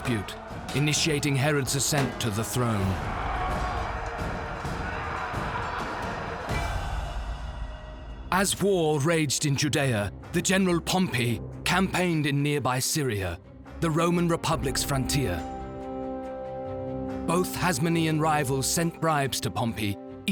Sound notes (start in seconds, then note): 3.0 men yelling